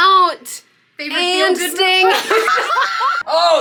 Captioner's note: everyone laughing